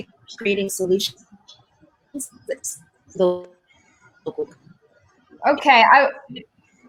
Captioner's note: connectivity hitch drowns other sounds